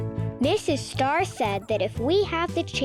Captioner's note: Mrs. Star chattering